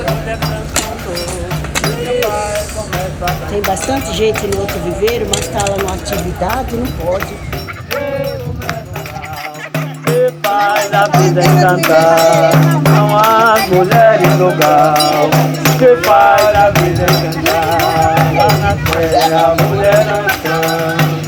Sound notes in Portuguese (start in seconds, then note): 0.0 batucada e canto; 7.5 batucada e canto; 7.5 risos